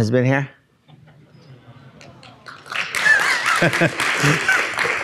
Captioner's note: audience applauding